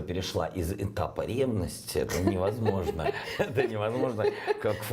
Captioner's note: host laughing